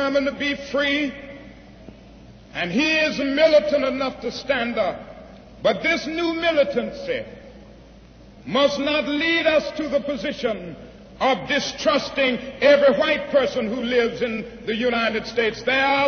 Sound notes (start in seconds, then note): none